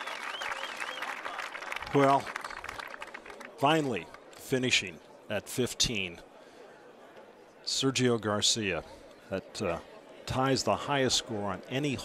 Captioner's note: cheers and applause